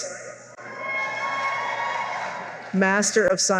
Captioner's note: cheering